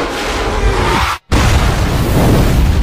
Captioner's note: explosion